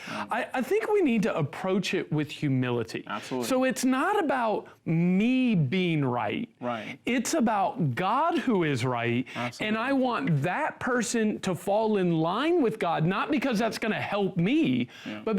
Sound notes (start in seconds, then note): none